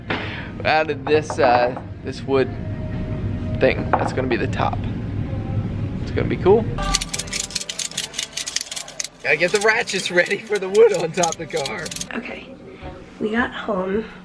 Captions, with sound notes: We added this wood thing that's going to be the top, it's gonna be cool. [clicking] Gotta get the ratchets ready for the wood on top of the car! Okay, we got home